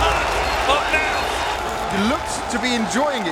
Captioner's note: crowd cheering